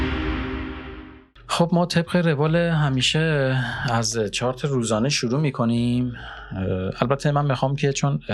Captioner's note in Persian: صدای آه